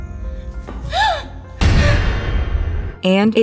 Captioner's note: Theo gasps